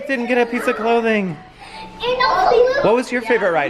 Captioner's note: sighs